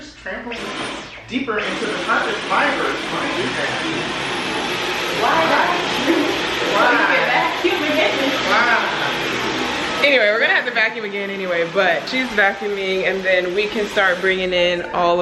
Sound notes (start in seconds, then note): 2.9 vacuum whirs; 4.5 laughs